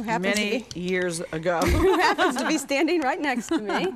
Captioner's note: laughs